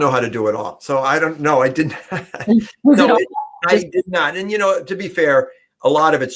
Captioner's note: laughter